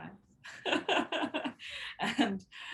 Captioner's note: chuckles